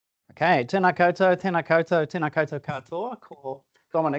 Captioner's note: speaking te reo Māori